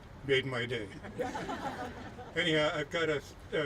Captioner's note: laughing